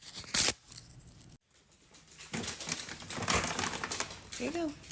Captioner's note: ripping open a tea bag